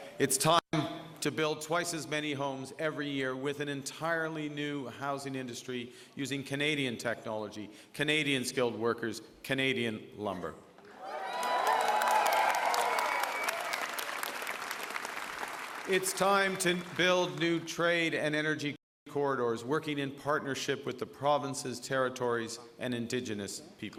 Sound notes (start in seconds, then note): 10.9 applause